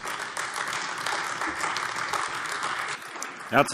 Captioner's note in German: Beifall AfD